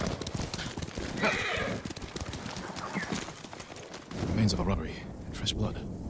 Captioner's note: thunder rumbling